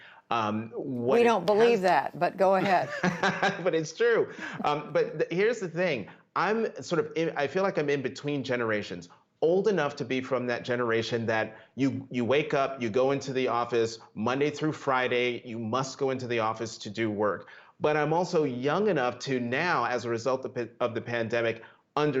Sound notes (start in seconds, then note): 2.6 laughter